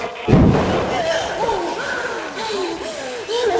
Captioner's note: door bangs; Isabel gasping